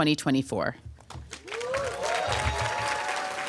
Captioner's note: applause